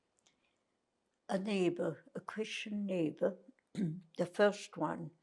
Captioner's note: clears throat